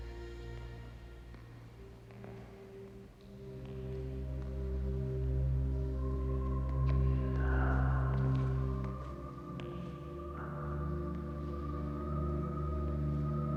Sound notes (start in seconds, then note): 6.2 footsteps tapping; 7.0 Dominic breathes uneasily